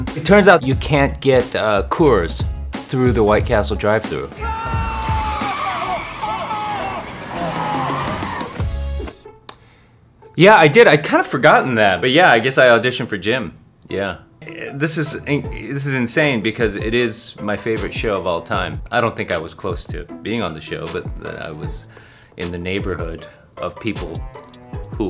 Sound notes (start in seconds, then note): 4.3 screams; 7.7 tires screeching